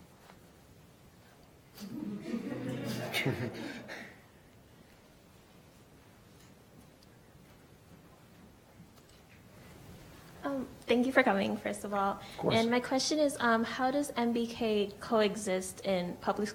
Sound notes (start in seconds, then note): 1.8 laughing; 10.8 voiceover